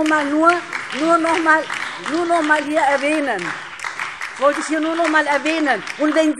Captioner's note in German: Beifall DIE LINKE und vereinzelt SPD - Zuruf AfD